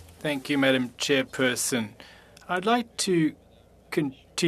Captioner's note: speaking FRENCH